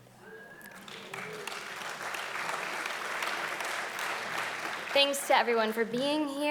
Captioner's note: audience applauding loudly